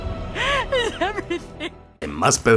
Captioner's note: crying